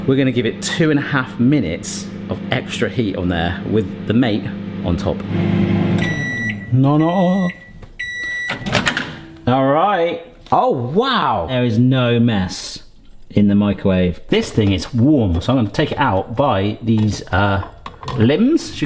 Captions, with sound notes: we're gonna give it two and a half minutes of extra heat on there with the Mate on top. (microwave beeping) Nah nah. All right. Oh wow. There is no mess in the microwave. This thing is warm. So I'm gonna take it out by these limbs.